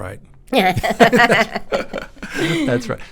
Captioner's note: both laughing